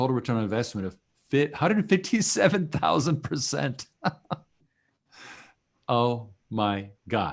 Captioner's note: laughing